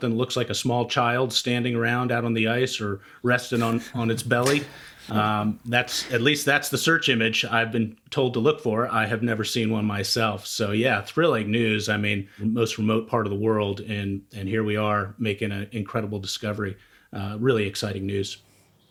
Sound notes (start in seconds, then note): 3.5 chuckling